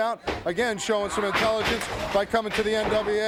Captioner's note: footsteps plodding; body thudding